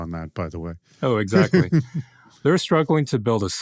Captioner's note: laughs